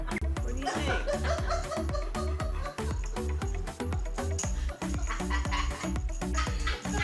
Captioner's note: laughs